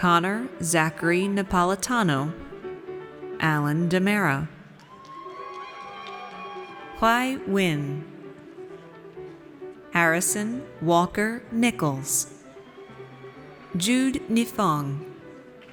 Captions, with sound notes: Connor Zachary Napolitano. Allen Ndemera. (audience cheers) Hoai Nguyen Harrison Walker Nichols. Judea Nifong.